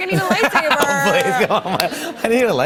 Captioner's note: light laughter